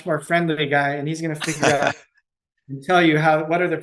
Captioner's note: chuckles